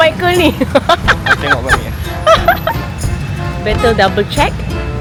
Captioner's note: laugh